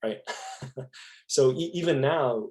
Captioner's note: laughing